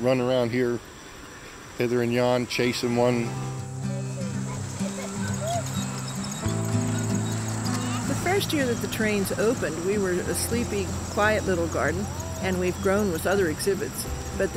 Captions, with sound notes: run around here hither and yon chasing one. (idyllic guitar music) (tiny trains squeaking) - The first year that the trains opened, we were a sleepy quiet little garden. And we've grown with other exhibits,